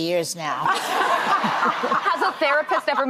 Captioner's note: audience laughing